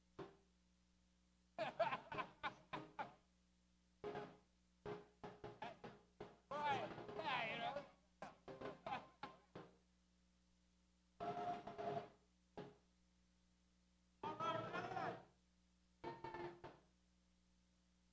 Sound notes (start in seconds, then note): 1.6 man laughs